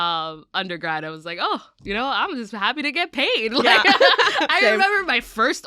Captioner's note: laughs